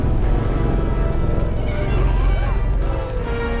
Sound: screaming

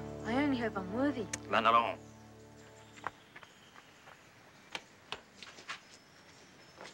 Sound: grandfather speaks in foreign language

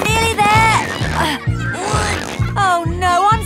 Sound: grunting

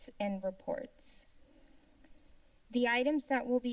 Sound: pause

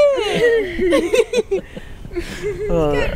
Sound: laughing

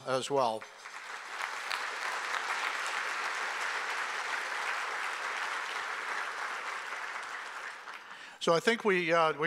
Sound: applause

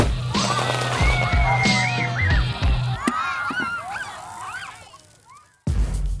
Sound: banging; children scream and cheer

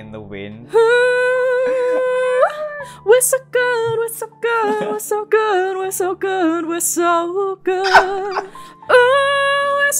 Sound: laughter

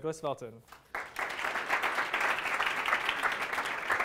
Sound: applause

